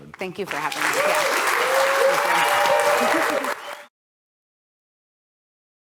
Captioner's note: applause